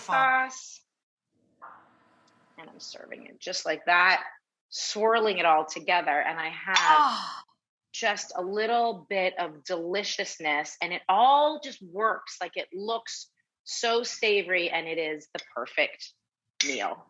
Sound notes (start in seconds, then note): 6.8 groans